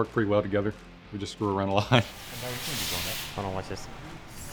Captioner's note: laughs